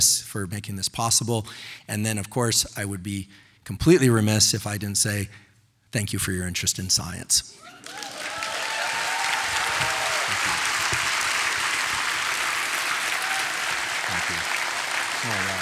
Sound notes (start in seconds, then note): 7.6 audience applauding; 7.6 audience cheering